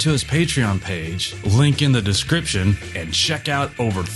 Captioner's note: none